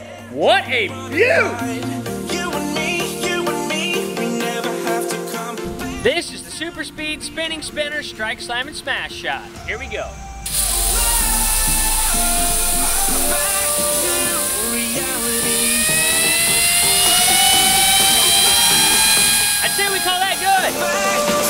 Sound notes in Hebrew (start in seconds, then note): 15.5 זמזום מדחס האוויר